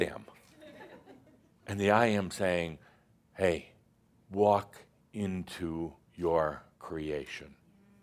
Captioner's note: some chuckles